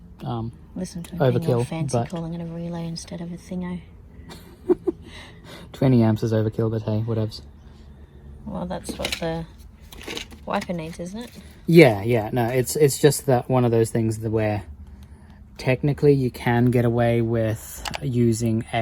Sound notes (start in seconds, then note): 4.3 laughs; 9.8 packet rattles